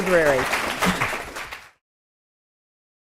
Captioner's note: applause